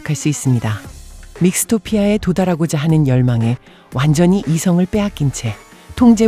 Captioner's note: metronome